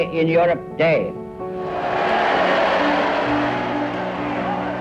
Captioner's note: cheering